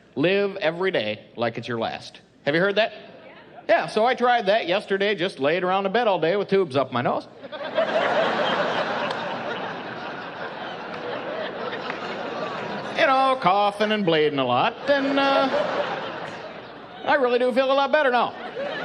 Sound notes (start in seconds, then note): 7.4 laughing; 14.6 laughing